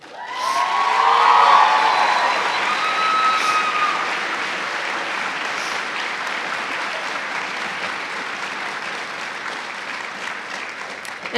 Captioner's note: cheers and applause